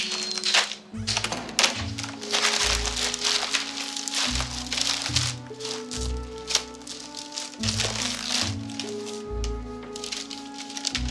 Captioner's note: door opens